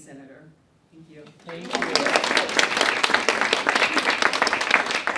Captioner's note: audience clapping